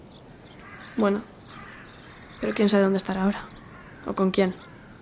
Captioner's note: crow cawing